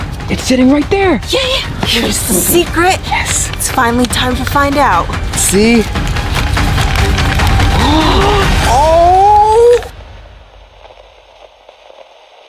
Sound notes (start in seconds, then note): 7.7 gasps loudly; 9.5 suspenseful music